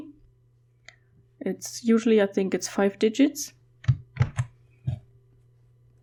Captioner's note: typing